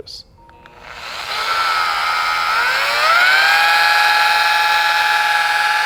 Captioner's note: rotary motor whirring